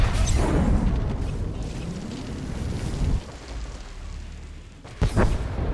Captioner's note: explosion